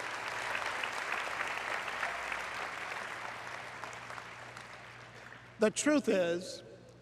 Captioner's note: applause